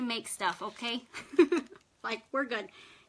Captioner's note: laughs